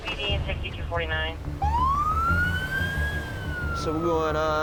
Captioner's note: sirens blaring